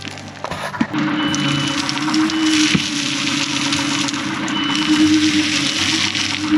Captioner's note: machine beeping; dirt rumbling